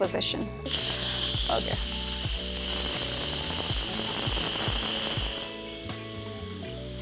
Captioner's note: soft music; hissing sound